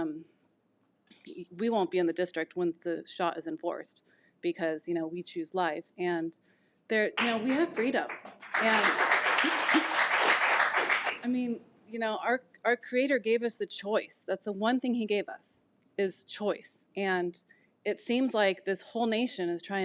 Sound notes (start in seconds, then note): 8.2 audience applause